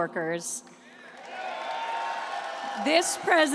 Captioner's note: applause